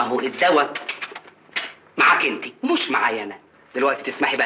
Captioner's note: kiss kiss